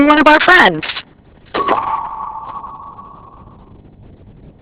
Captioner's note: doorbell rings